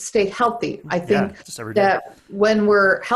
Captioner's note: murmurs